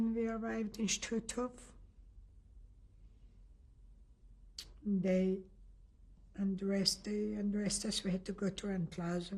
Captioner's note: pauses for 3 seconds